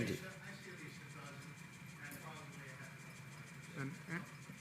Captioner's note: faintly speaking